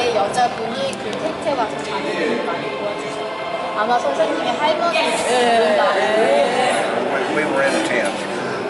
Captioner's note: koreans speaking